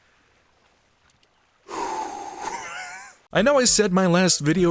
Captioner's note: phew